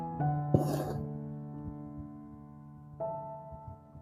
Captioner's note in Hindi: नाक से की जाने वाली आवाज़